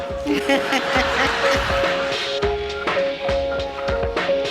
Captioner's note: audience laughs